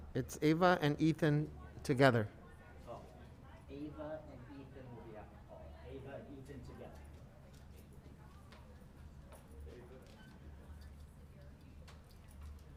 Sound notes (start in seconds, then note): 8.3 faintly speaking